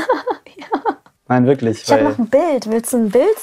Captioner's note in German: lacht